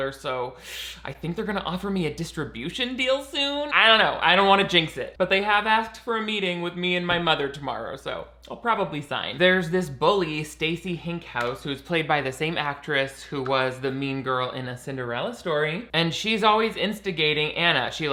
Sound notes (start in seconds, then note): none